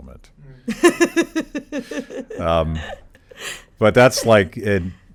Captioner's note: laughs